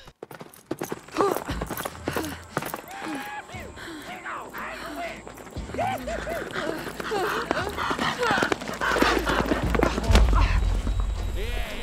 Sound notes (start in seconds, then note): 0.0 horses whinnying; 0.0 men whooping; 1.0 hooves clomping; 1.2 Brigit grunts; 2.7 men whooping; 5.7 man whooping; 8.4 Brigit whimpering